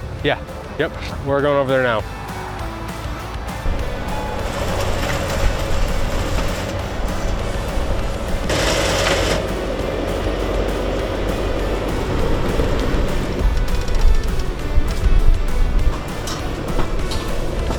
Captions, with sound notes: Yeah. Yep, we're going over there now. (bright music) (concrete pours) (bright music continues) (tool clangs) (bright music)